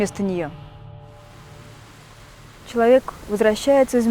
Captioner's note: sound of rain